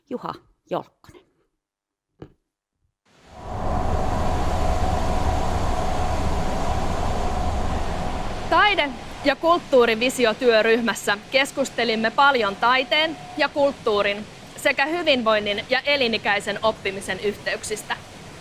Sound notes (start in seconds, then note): 3.5 industrial ambience